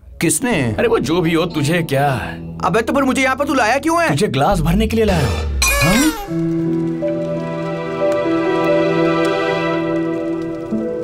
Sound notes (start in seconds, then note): 5.4 fire crackles; 5.5 clanking